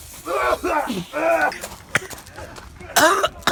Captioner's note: coughing